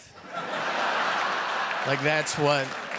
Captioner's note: audience laughing